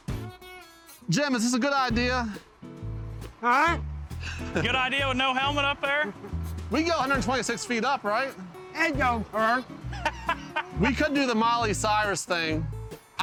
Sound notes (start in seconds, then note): 9.8 laughs